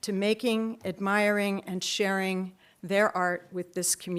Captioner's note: none